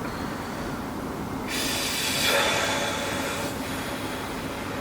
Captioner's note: sigh